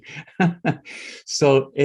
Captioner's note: laughs